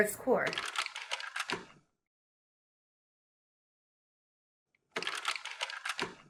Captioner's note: projector slides shuffling; projector slides shuffling